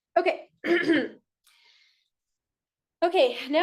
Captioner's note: clears throat